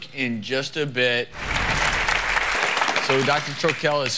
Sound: audience applause

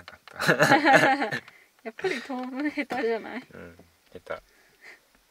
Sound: laughs; laughs

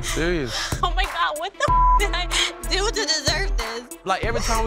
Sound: beep

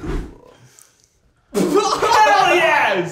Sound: laughing

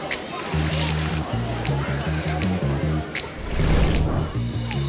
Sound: water splashing

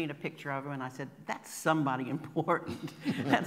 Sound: laughing

